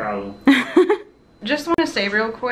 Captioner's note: laughing